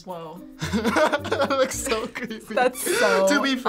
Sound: laughing

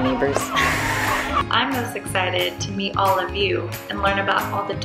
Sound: laugh

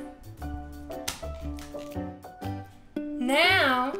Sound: smashing

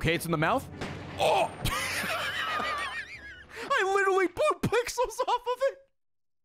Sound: laughs

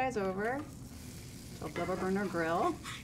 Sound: burgers sizzling

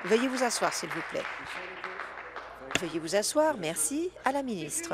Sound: applause

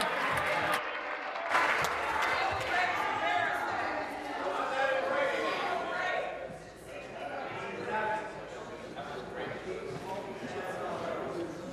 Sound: applause

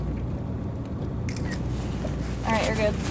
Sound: shutter clicks

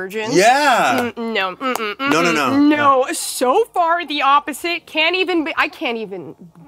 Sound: both laughing

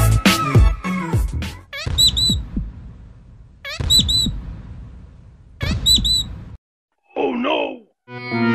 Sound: parrot chirps

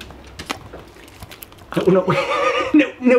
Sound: chomping; laughs

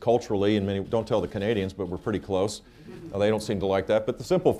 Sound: laughter

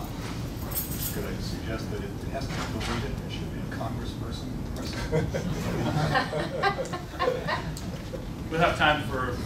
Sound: laughter

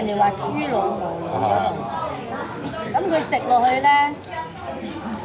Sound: woman speaking Cantonese

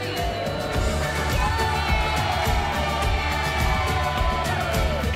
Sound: cheering

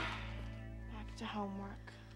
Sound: sighs

